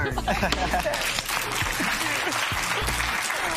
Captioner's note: applause